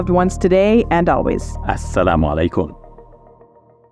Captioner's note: speaking in foreign language